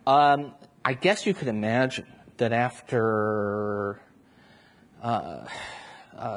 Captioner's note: sighs